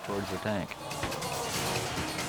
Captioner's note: crowd exclaiming; edgy dramatic music